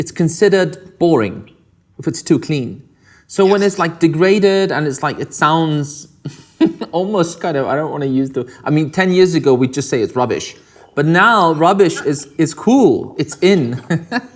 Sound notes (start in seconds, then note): 6.4 laughs; 13.5 laughs